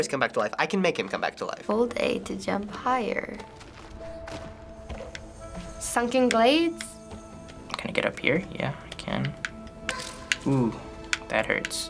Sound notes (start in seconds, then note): 3.4 in game: rustling through forest